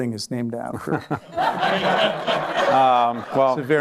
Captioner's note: laughter